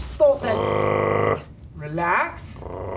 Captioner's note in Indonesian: menggeram